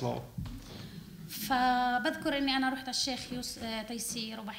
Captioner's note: speaking arabic